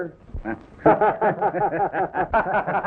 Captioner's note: laughs